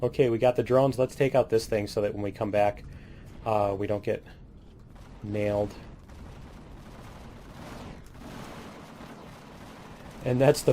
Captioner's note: cannons